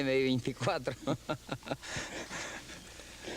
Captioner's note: chuckles